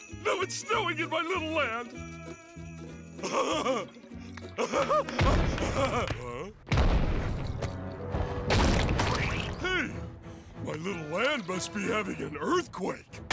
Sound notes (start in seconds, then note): 4.5 laughing